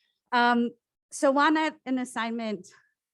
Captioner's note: foreign language